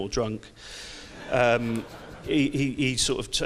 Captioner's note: audience laughs